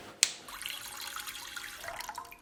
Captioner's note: water dripping